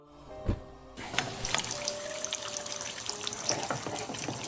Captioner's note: flame whoosh